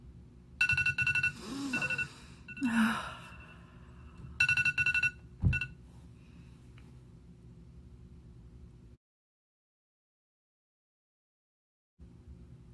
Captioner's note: alarm ringing